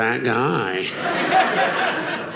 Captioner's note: audience laughing